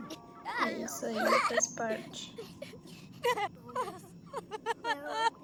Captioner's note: laughs